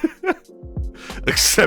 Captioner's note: laughs